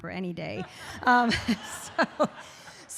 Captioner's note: audience laughs